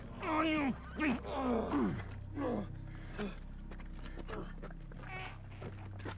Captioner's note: Igor groaning